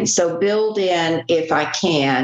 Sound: none

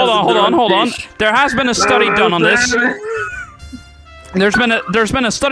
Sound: drunk slurring

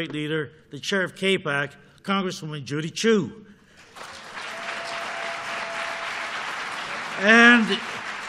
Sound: applause

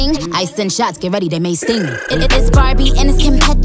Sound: brrrr

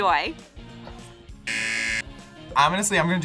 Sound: buzzer

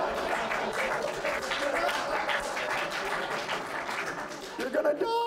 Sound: audience laughs

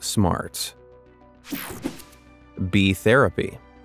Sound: picture whooshing

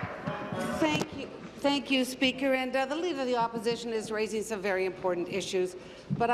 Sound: applause

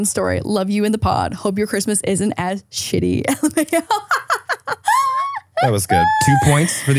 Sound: laughs

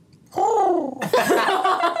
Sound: coos; all laughing

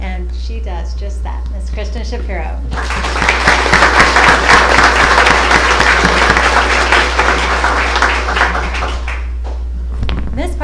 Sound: applause

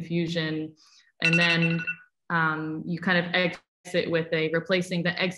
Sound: phone rings

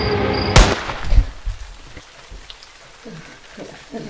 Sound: gun fires

